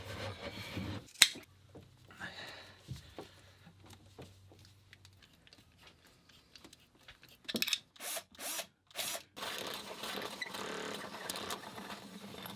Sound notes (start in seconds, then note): 8.9 whirring